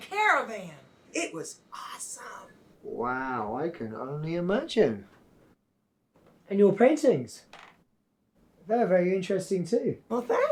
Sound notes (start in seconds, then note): none